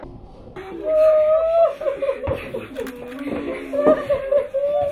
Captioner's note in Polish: płacz